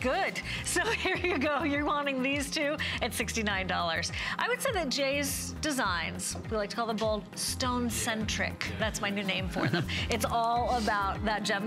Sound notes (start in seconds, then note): 0.8 laughter; 4.4 laughter